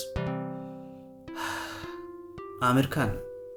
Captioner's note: audible sigh